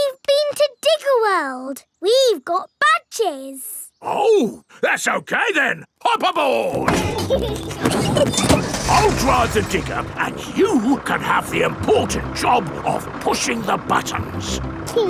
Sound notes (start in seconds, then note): 6.8 peppa and george laughing